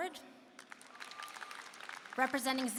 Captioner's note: applause